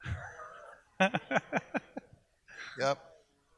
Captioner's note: laughs